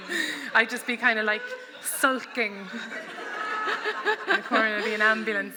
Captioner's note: laughter